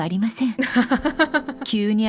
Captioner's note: chuckles